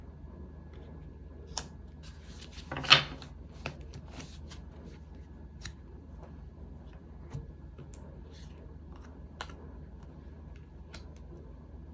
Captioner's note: drawing cards